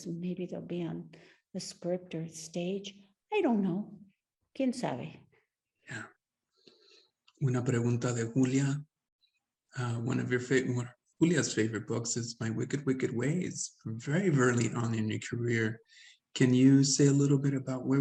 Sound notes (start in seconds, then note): 3.7 speaks Spanish; 6.8 speaking Spanish